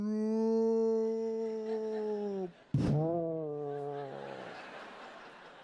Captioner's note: imitates gunshot in slow motion